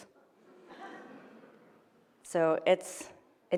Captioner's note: audience chuckles